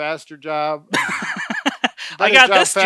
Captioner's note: laughs